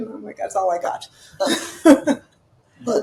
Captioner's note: laughing